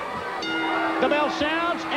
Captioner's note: bell rings